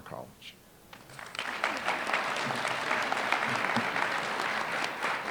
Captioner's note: applause